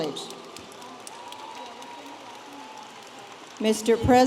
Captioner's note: audience applauding